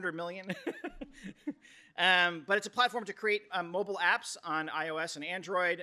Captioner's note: laughs